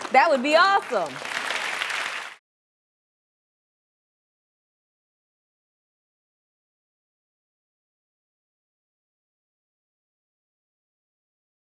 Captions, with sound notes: - That would be awesome. (applause)